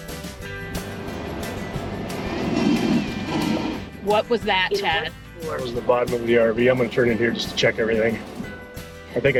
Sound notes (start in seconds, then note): 0.8 metal scraping